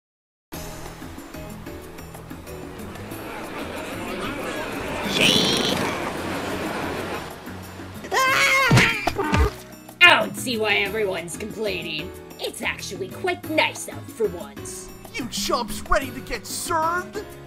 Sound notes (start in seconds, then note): 8.1 Nacho screams